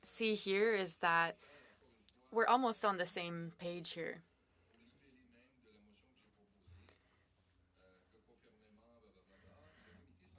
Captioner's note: speaking French